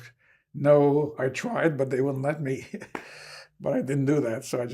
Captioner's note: laughing